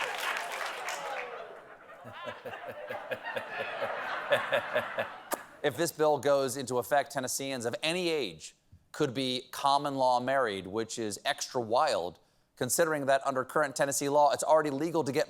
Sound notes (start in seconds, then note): 4.1 laughter